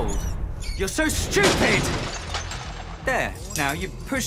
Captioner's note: glass breaks